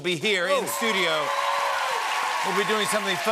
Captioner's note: cheers and applause